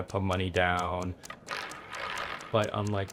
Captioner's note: roulette ball dropping